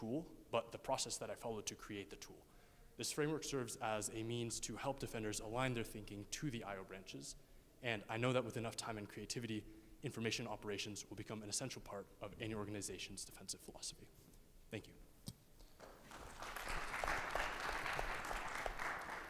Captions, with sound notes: but the process that I followed to create the tool. This framework serves as a means to help defenders align their thinking to the IO branches. And I know that with enough time and creativity, information operations will become an essential part of any organization's defensive philosophy. Thank you. (audience applauds)